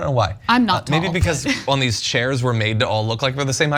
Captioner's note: laugh